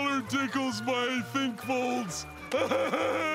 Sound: grunting

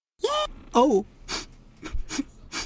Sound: sniff; whimpering

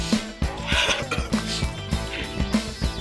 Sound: coughing, sniffling

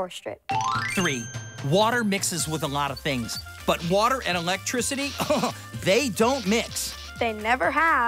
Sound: laughs

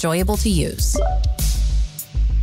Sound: soft synthwave music; electronic notes ring out

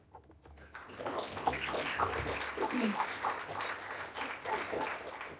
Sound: audience applauding

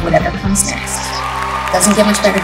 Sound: cheering

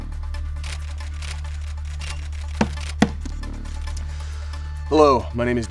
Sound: camera shutter clicking

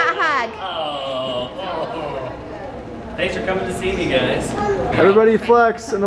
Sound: chuckling

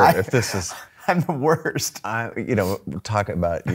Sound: laughing

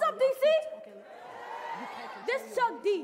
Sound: audience cheering

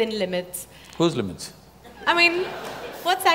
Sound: laughter

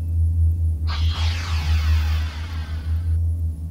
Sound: pneumatic door opening

